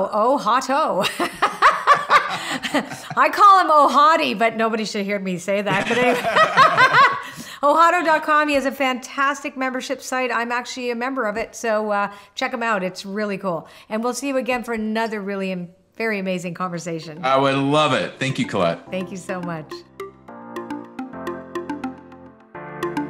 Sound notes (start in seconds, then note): 1.1 laughing; 5.6 both laughing; 20.4 upbeat music